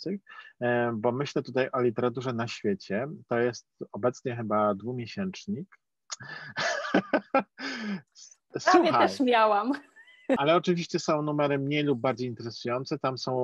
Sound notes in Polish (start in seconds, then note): 6.2 śmiech